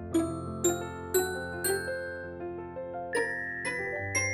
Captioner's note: Tobee dinging; Tobee dinging continues